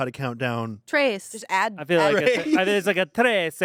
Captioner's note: laughs